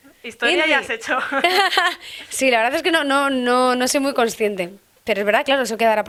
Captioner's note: laughs